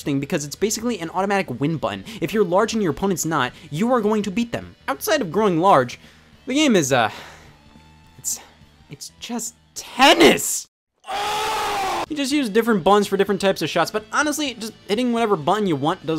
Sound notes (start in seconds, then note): 9.9 exclaims